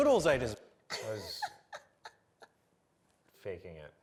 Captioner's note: laughing